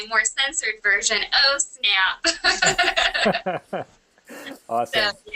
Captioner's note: laughter